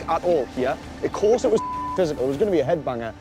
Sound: beep

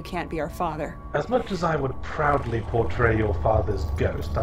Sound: voiceover

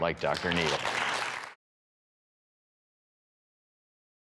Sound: audience applause

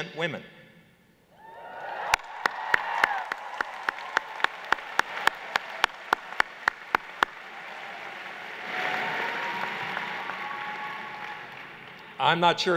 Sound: cheers

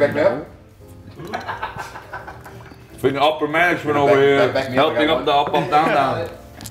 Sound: laugh

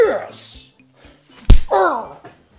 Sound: punch

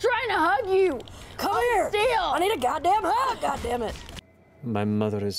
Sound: sounds of video game violence

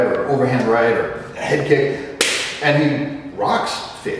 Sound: fist smack

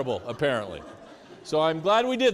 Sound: students laughing

